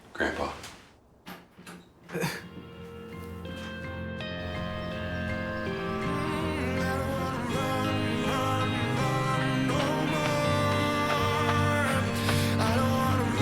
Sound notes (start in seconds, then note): 2.0 scoffs; 11.3 jogging footsteps; 13.2 chorus continues